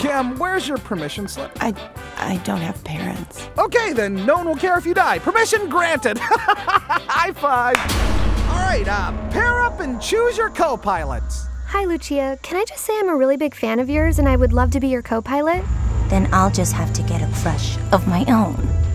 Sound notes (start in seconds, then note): 7.7 slap